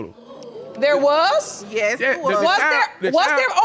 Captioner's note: audience exclaiming